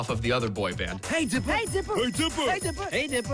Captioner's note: bells dinging